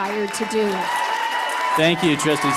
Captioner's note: cheers, applause